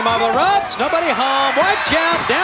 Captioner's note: audience cheering